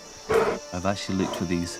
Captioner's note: bear growls